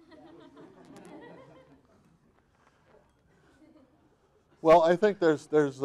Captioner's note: audience laughing